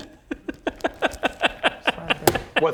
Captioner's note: gleeful DM noises